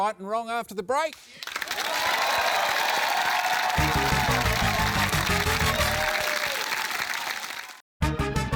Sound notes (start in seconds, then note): 1.4 cheering, applause